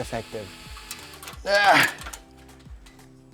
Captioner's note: grunts